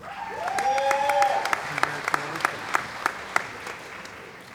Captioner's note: cheering & Applause